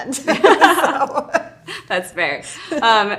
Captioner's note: both laugh